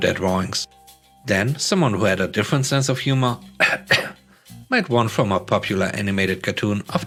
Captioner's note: cough cough